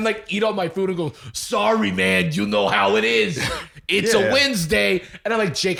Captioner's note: NY accent